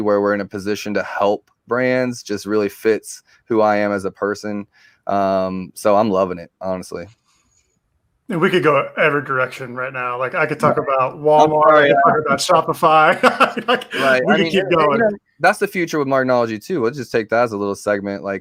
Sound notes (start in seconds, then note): 12.9 laughing